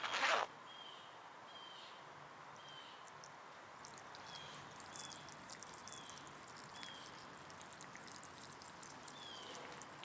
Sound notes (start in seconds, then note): 0.0 zipper whizzes; 3.8 pee splashing